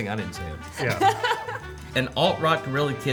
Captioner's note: laughing